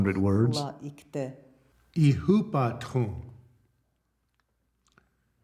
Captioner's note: men speaking Lakota